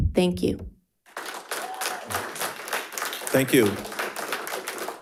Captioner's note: audience applauding